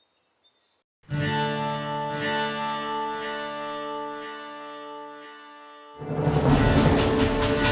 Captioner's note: dramatic music; train chugging